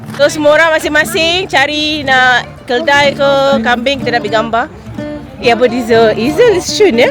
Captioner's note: none